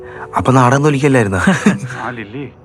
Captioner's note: chuckles